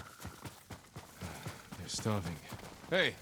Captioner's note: sigh